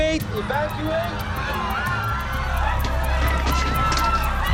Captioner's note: screaming